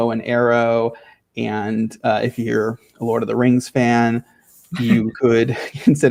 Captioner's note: laughing